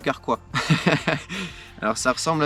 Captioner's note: laugh